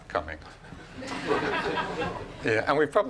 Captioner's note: laughing